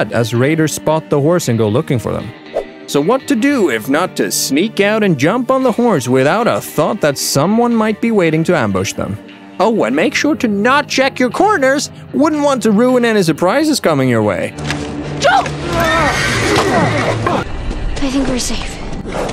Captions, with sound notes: as raiders spot the horse and go looking for them. So what to do if not to sneak out and jump on the horse, without a thought that someone might be waiting to ambush them. Oh, and make sure to not check your corners! Wouldn’t want to ruin any surprises coming your way. - Joel! (Grunt) I think we're safe.